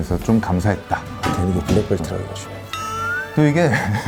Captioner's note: whispering / Jujistsu master